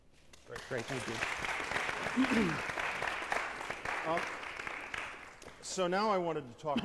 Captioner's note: applause